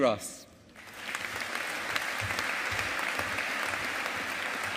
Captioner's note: audience applauding